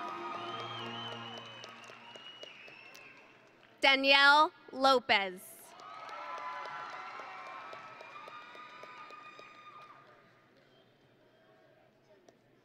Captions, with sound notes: (grand music) (audience and graduates cheering) Danielle Lopez. (audience and graduates cheering)